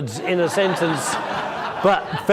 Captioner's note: crowd laughs